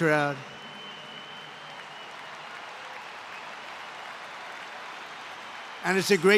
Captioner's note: applause